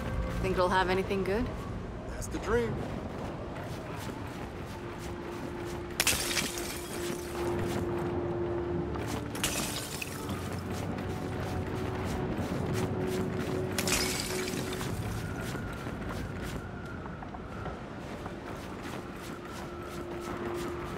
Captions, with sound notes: - Think it'll have anything good? - That's the dream. (glass shatters)